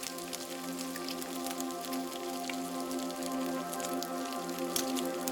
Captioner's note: fry pan sizzle continues